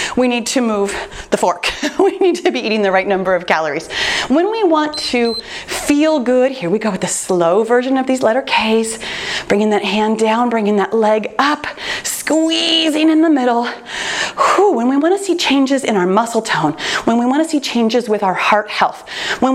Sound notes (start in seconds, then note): 1.9 chuckles; 4.8 timer beeps